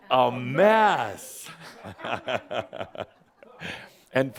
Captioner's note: chuckles, as the audience says it along with him